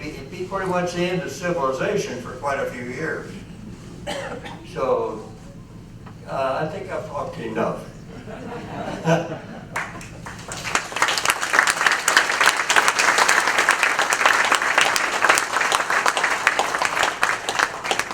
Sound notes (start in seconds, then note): 12.3 appaluse